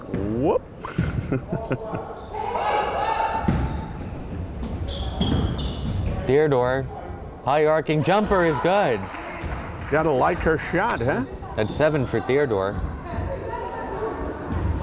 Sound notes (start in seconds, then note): 0.8 chuckles; 2.2 crowd yelling